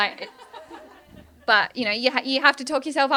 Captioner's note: laughter